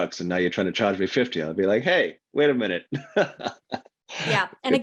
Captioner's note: laughs